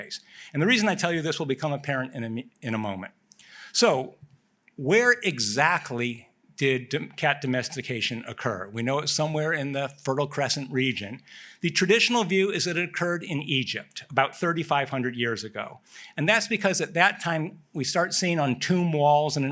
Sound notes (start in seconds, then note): none